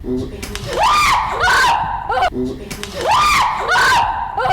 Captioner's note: screams